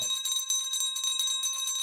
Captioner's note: bell ringing